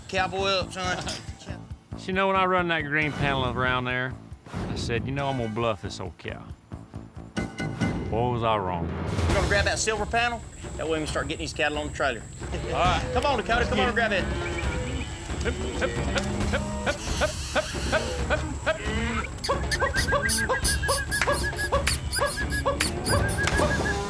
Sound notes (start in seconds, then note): 14.3 whistling